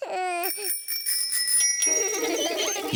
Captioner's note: bells ringing; laughing